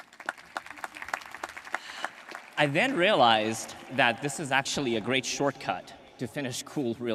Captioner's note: applause